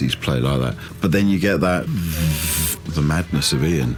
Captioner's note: hums